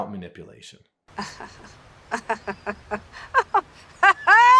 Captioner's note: woman laughing